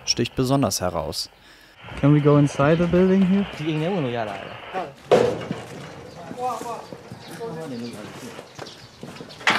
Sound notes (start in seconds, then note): 6.4 voices in the background